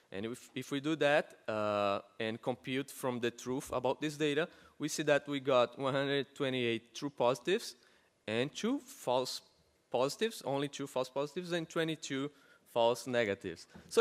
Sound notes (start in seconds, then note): none